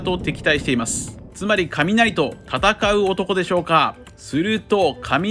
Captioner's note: thunder